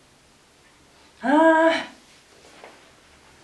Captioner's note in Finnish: ärtynyt äännähdys